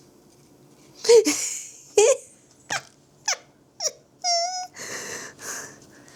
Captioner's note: laughs